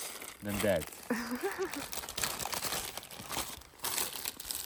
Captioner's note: laughter